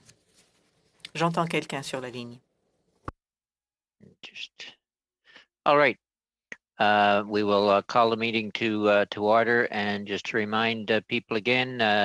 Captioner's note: speaking French